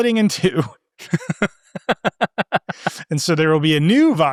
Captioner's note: participants laughing